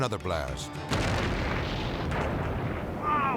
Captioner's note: explosion booming